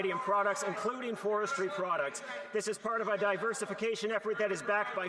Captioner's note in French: voix de l'interprète